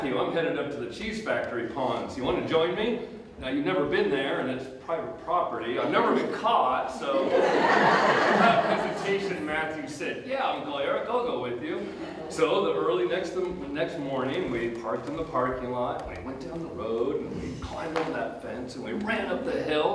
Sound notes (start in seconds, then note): 7.0 audience Laughter